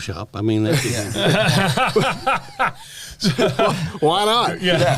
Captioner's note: laughter